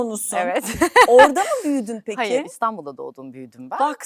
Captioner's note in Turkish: kahkaha